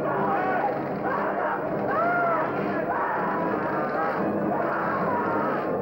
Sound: screaming

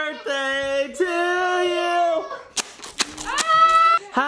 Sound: toy crinkling

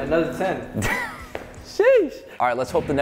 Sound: chuckles

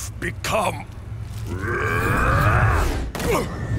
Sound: grunting

